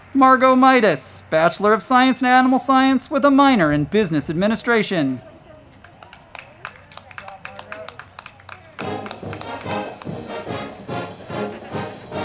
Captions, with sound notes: Margaux Midas, Bachelor of Science in Animal Science with a Minor in Business Administration. (crowd clapping) (band music)